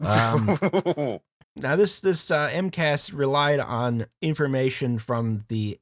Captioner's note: laughter